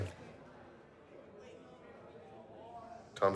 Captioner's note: prisoners chattering